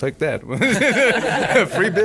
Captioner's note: laughing